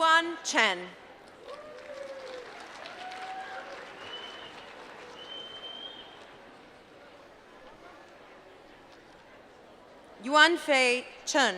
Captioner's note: applause